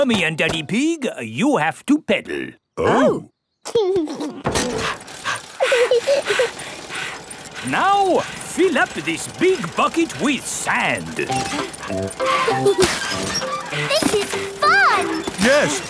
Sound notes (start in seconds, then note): 3.7 chuckles; 4.0 daddy pig panting; 5.9 mummy pig panting; 5.9 peppa chuckles; 12.1 mummy and daddy pig panting; 12.1 peppa and george laughing; 15.6 straining